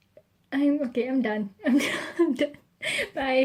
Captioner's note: laughing